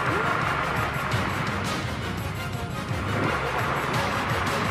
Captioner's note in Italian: Applauso